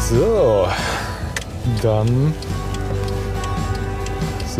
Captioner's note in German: Blinkergeräusche